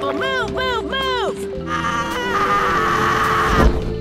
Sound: screams

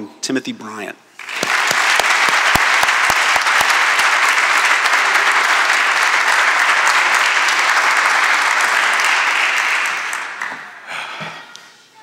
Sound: applause

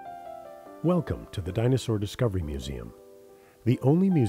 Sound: voiceover

